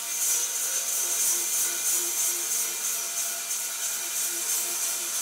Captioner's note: machine sawing